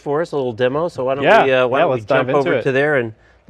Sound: murmurs

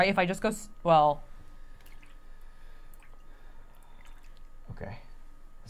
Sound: water splashing softly

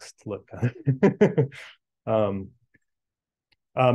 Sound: chuckles

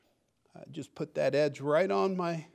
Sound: none

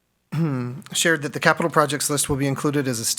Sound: clears throat

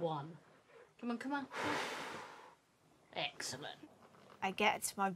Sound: blowing

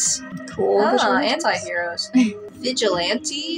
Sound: chuckle

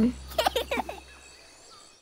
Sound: child giggles

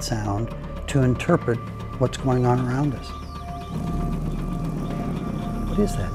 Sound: sounds of growling, howling, thunder

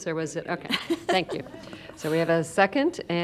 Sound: laughter

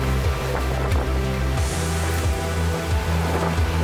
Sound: wind gusting

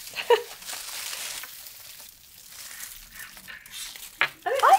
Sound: foil crinkles

